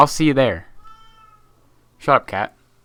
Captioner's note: my cat wails